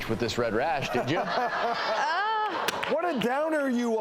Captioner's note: laughing